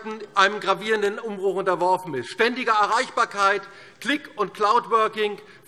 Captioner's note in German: none